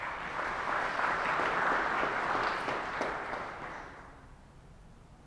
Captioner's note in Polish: oklaski